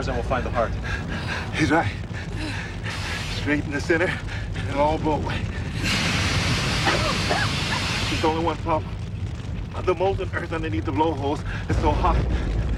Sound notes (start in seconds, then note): 5.8 Dan coughing